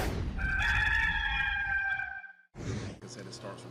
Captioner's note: rooster crowing